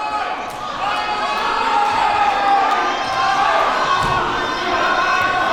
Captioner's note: crowd cheering and booing